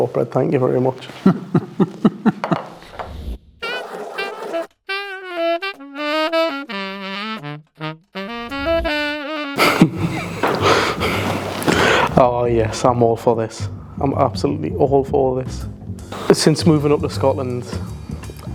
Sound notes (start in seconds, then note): 1.1 laughter; 9.6 laughter